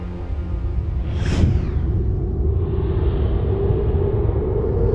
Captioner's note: ominous music; graphic whooshing